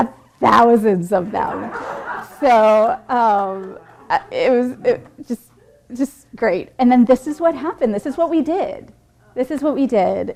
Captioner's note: laughter